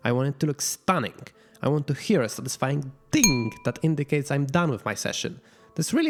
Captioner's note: ding